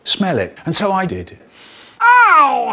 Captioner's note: sniff